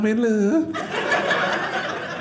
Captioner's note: audience laughing